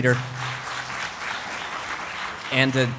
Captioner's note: applause